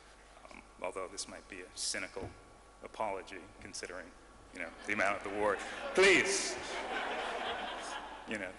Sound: laughter

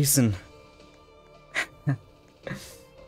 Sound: chuckles

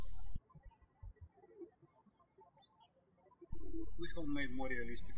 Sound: birds chirping

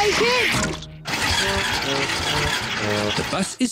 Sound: engine stalls

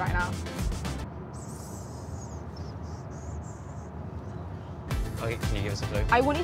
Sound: make whistling thinking noises in silence

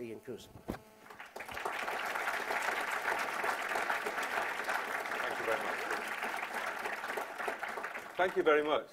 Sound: applause

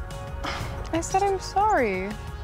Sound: sighs

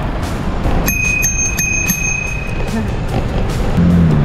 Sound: bell rings

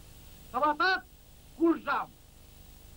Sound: Mari language

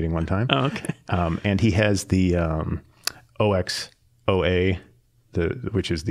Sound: laughing

